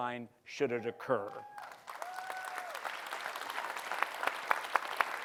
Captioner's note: cheering and applause